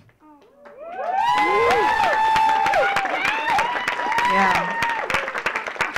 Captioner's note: audience clapping; audience cheering